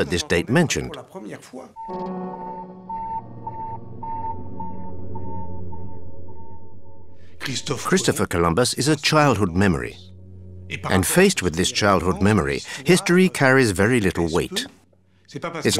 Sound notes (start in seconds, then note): 7.4 dramatic beeping